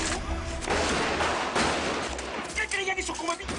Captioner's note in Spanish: Disparos